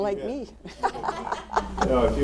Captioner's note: laughing